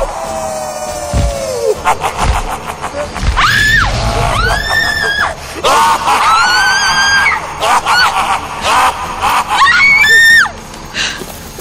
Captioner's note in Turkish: Kahkaha sesi